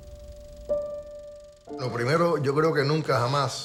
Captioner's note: speaking in Spanish